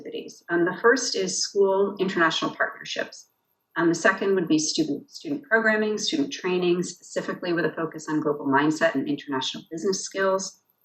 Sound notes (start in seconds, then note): none